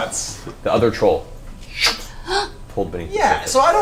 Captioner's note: sucking sound